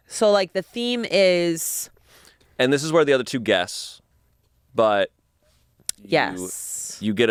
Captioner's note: none